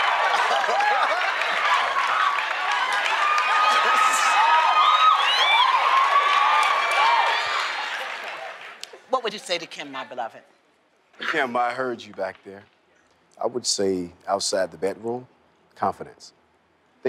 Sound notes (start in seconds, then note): 0.2 applause; 3.8 laughs; 4.1 applause